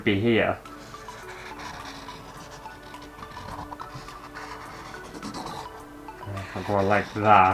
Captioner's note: pen Scraping On Canvas